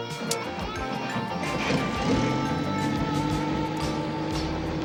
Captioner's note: helicopter whirring